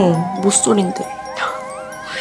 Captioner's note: snort